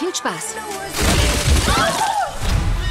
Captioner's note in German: Krachen